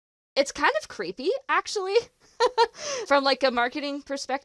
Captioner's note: giggles